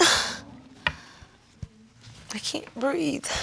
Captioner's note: coughs